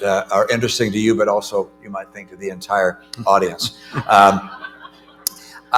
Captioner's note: laughter